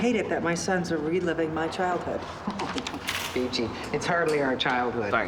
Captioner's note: laughs